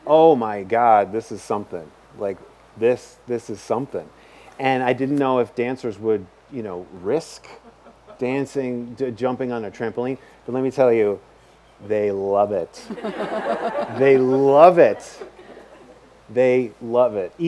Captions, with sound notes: Oh my God, this is something." This is something. I didn't know if dancers would risk dancing, jumping on a trampoline, but let me tell you, they love it. (audience laughs) They love it. They love it.